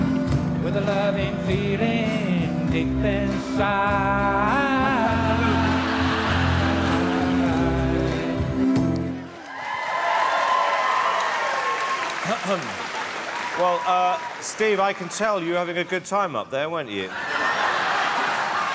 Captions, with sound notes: With a loving feeling deep inside. [Cheering] Well uh, Steve, I can tell you having a good time up there weren't you. [Laughter]